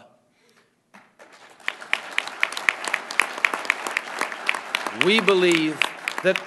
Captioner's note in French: Applaudissements